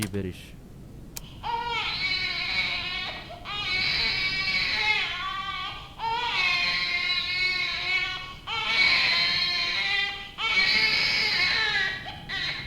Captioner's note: baby wailing